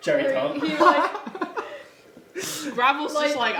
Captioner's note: laughing